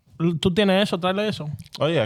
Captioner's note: speaking In Foreign Language